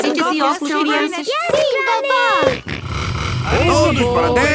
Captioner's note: snort